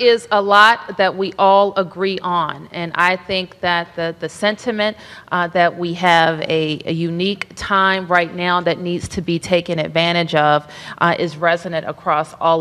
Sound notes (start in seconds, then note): none